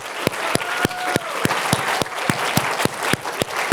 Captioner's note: applause